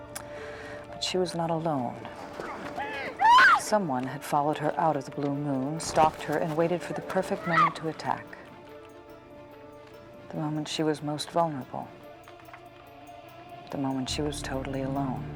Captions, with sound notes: but she was not alone. (woman screaming) Someone had followed her out of the Blue Moon, stalked her, and waited for the perfect moment to attack. The moment she was most vulnerable. The moment she was totally alone.